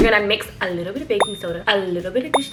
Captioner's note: bell chimes